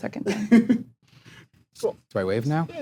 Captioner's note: chuckling